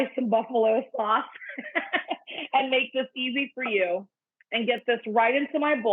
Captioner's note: laughing